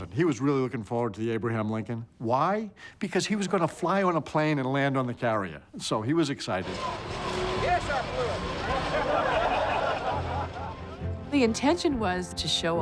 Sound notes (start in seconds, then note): 8.8 crowd laughter